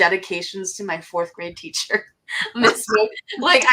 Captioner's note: laughs